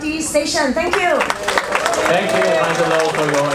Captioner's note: audience applauding